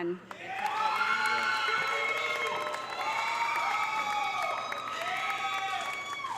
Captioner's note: audience applauding; audience cheering